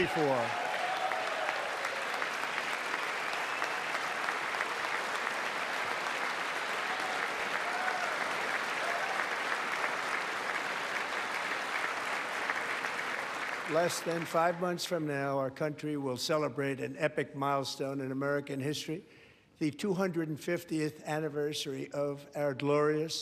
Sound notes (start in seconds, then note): 9.0 applause